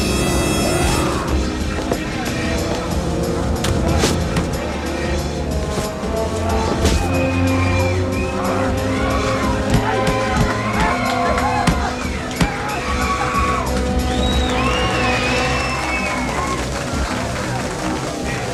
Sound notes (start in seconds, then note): 0.8 Boris screams; 10.7 crowd cheering